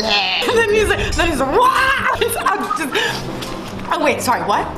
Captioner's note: screams